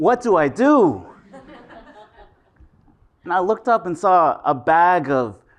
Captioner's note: laugh